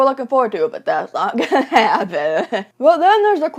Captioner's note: laughs